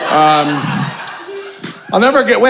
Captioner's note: audience laughing